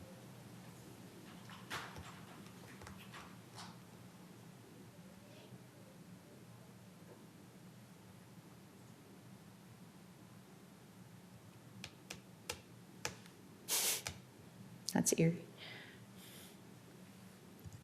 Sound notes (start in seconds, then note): 6.7 loss of audio